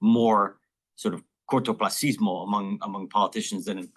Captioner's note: speaking in foreign language